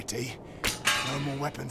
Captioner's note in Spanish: ruido de espadas